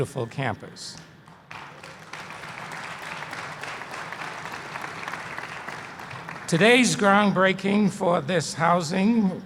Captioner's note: applause